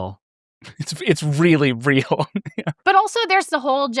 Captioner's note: laughs